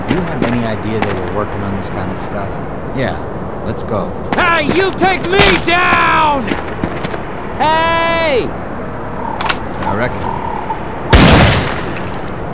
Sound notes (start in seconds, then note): 11.1 Desert Eagle Shot!